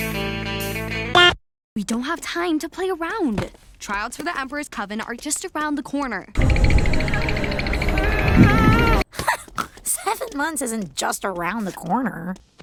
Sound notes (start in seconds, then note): 9.1 chuckle/snort; 9.2 teeth chattering